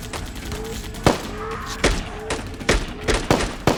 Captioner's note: body crackling; gunfire pops